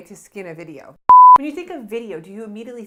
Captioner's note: beep